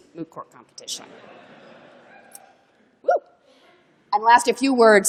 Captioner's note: cheering